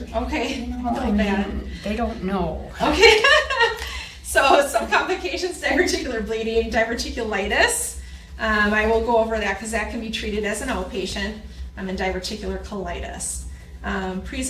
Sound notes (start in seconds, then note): 3.5 laughs